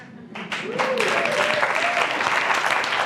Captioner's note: applause